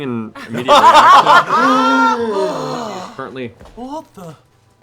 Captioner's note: laughter